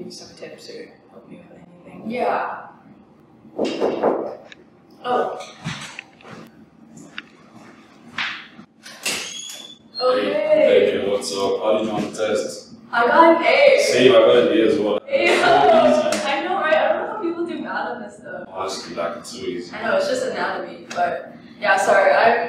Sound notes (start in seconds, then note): 3.6 knock at the door